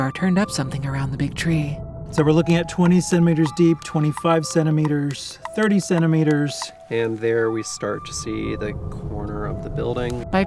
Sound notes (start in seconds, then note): 2.4 buttons clicking